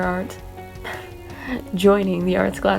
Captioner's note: chuckles